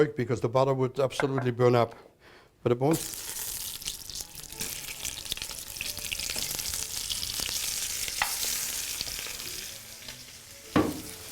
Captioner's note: sizzling